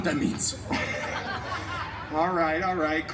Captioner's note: guests chuckling